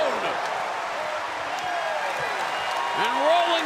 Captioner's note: crowd cheering